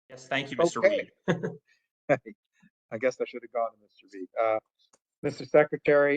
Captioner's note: laugh